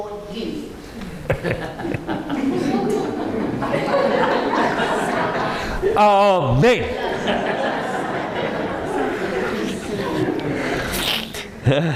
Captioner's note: audience laughing